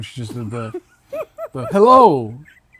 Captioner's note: laughter